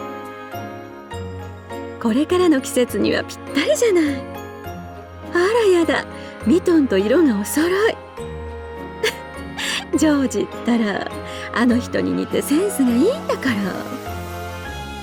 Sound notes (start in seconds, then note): 9.0 giggle